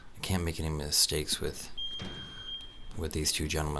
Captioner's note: beep